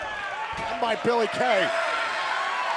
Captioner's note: crowd cheering